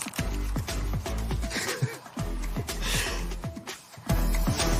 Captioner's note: chuckles